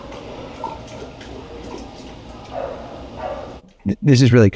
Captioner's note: water splattering